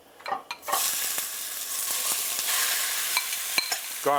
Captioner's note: sizzling